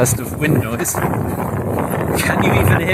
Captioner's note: wind whooshing